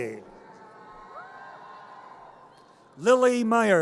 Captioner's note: audience cheers